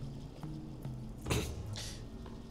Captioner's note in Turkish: Boğaz temizleme sesi